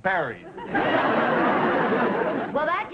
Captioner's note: audience laughing